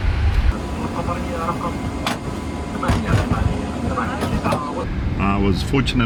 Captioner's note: hatch shutting